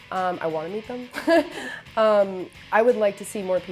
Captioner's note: laughs